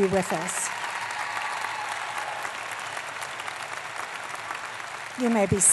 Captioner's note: applause